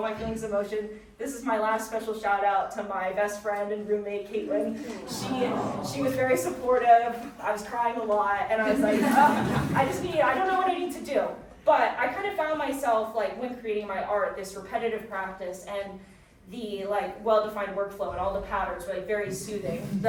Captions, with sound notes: my feelings of emotion. This is my last special shout-out to my best friend and roommate, Caitlyn. She was very supportive. (audience cooing) I was crying a lot, and I was like, (audience chuckling) "Oh, I just need, I don't know what I need to do," but I kind of found myself, like, when creating my art, this repetitive practice, and the, like, well-defined workflow, and all the patterns were, like, very soothing.